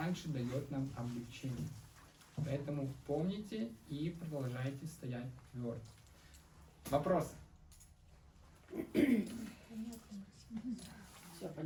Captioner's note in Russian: откашливается